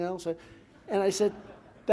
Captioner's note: laughter